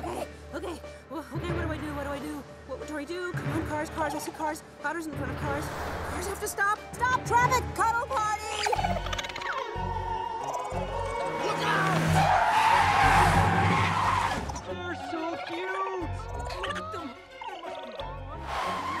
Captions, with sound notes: okay, okay, whoah okay. what do I do? what do I do? "what would dory do?" come on, cars, cars, I see cars. otters in front of cars, cars have to stop! stop traffic! Cuddle party!! [otters chirping] Look out! [tires screech] They're so cute! awww! [otters chirping]